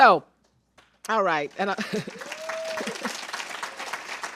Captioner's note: cheers and applause